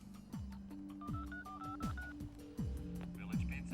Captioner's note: dials telephone number